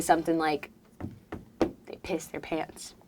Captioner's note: fingers tapping